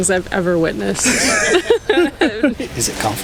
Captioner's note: everyone laughs